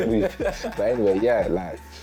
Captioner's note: laughing